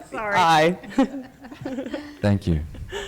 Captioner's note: laughter